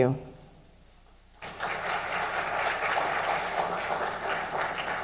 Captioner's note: applause